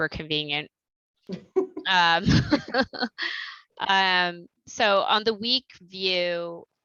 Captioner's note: laughter